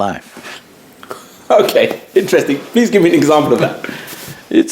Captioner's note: laughs